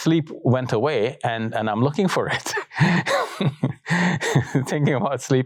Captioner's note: laughs